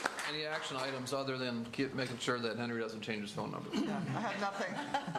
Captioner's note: applause